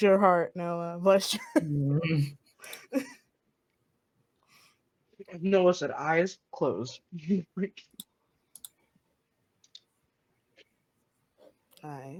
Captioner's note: More Roll20 clicking